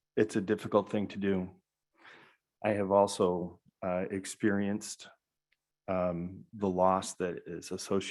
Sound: none

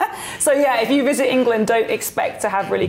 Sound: laughs

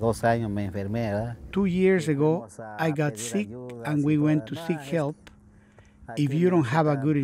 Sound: man speaking in Spanish

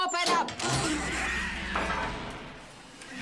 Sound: gate clangs open

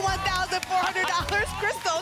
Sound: applause and cheering

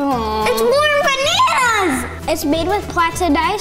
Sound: moaning

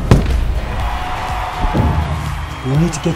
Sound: cheering

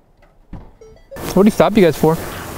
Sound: device chiming

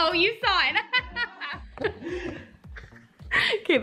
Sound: laughs

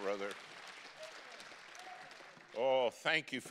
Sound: congregation clapping

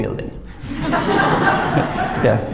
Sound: laughter

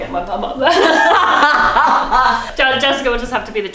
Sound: both laughing

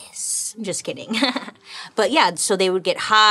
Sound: chuckles

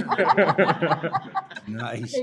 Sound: laughing

